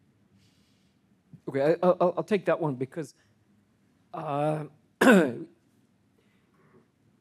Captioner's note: clearing throat